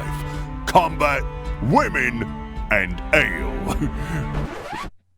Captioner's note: chuckle; record scratch